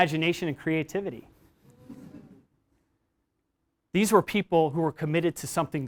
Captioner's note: laugh